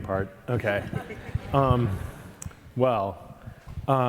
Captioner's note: audience chuckling